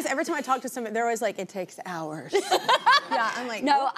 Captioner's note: laughs